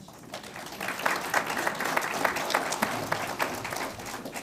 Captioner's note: audience applauds